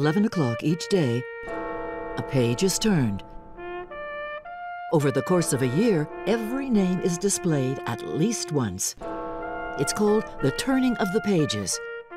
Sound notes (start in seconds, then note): 5.2 bell ringing